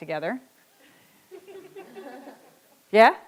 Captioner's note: audience laughs